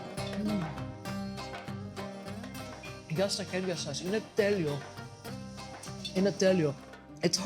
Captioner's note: speaking greek